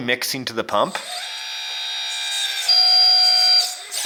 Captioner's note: motor whirs